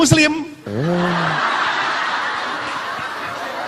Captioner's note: audience laugh